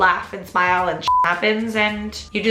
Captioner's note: beep